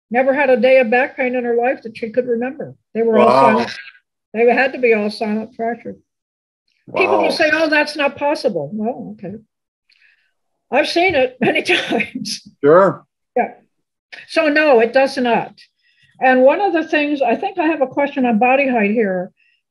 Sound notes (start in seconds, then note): 12.7 laughs